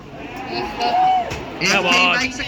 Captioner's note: cheers